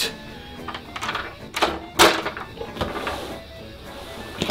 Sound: door locking

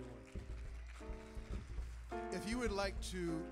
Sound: audience applauding

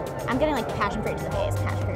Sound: murmurs

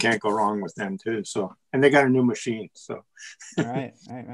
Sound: laughs

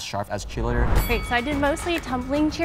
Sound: bell ringing

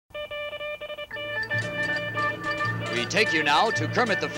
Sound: newsflash beeps

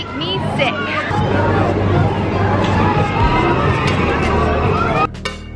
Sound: crowd chattering

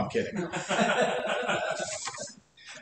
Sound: laughter

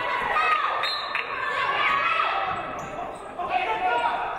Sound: referee blows whistle

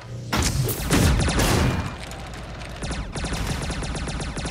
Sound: guns firing

